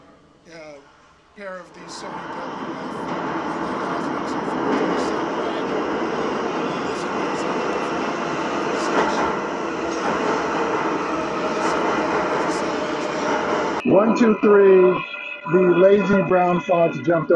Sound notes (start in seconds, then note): 3.9 engine roaring